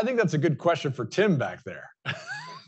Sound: laughs

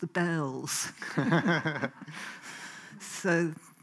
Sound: both laugh

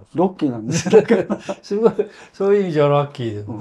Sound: laughs

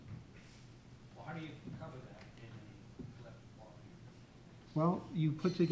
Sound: speaking faintly

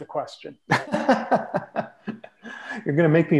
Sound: laughing

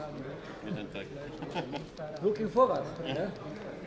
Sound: laughing

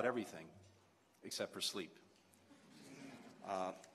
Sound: laughter

